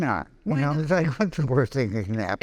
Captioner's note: laughing